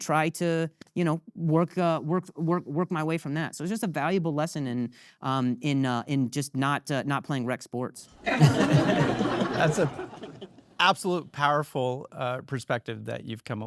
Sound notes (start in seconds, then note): 8.2 audience laughing